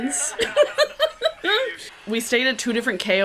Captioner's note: laughter